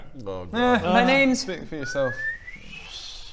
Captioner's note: kettle whistling